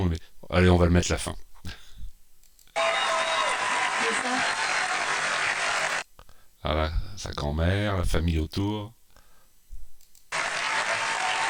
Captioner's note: applause